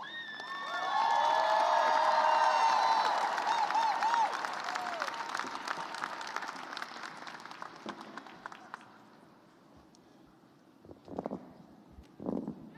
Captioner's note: cheers and applause